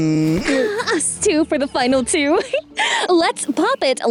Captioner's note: chuckles